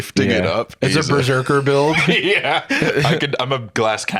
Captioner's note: laughs